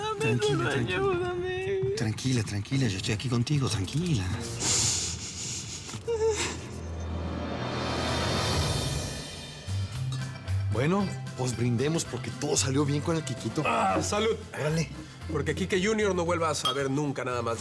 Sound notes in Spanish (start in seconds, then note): 7.6 Sollozos